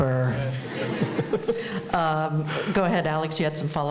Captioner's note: laughing